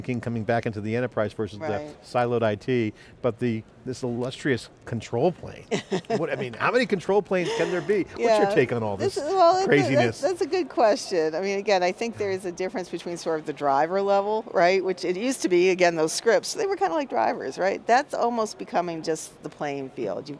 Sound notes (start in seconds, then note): 5.7 laughing